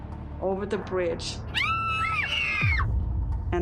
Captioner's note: screaming